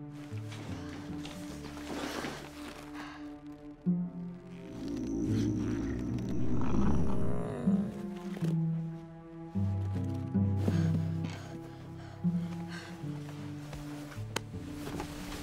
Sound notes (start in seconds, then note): 4.4 growl